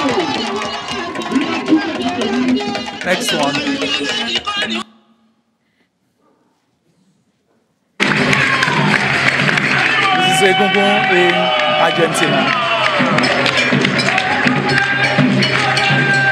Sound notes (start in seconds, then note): 0.0 people cheering; 8.0 people cheering